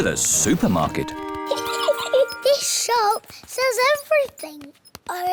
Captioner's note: giggles